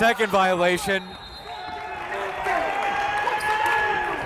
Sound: whistle

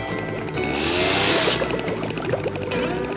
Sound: reef blower blows

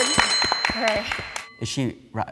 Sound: clapping; bell ringing

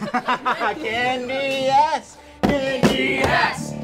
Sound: crowd chanting

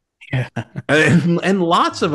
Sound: chuckles

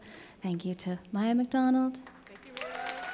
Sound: audience applauds

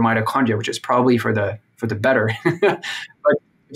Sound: laughs

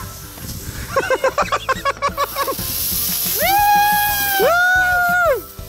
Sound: everyone laughs

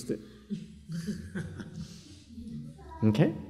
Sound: chuckle

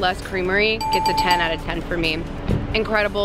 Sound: dings

